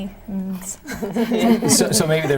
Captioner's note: laughing